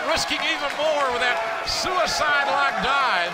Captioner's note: crowd cheering